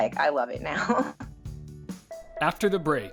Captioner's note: laughs